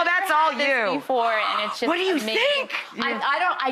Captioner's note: Rachael gasps